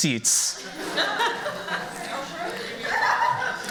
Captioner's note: laughter